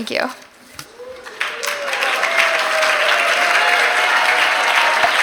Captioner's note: applause and cheers